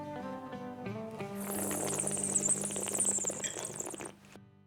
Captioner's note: slurps